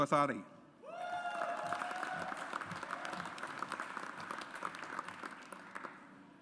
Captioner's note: audience applauds